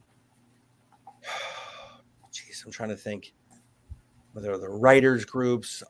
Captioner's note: sighs